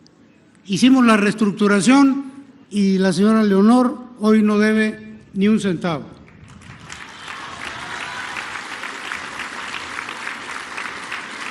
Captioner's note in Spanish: aplausos